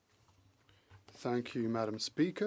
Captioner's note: speaking French